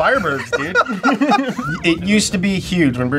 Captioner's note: laughs loudly